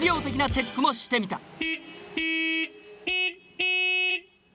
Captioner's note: car Horn Battle